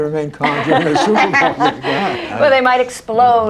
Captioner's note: laughter